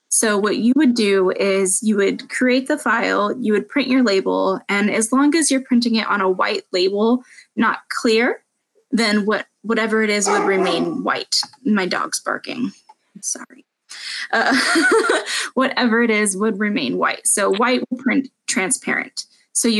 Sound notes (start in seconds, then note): 10.2 dog barking; 14.5 laughing